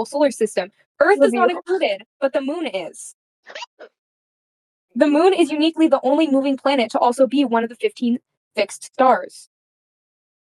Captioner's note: laughs